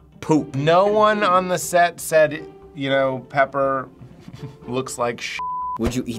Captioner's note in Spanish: pitido